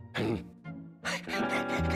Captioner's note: laughing